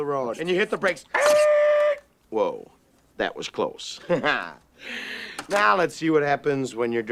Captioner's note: imitates Screech